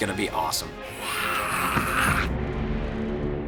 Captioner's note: snarls